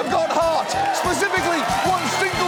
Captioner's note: studio audience cheers